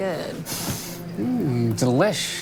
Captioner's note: sniffing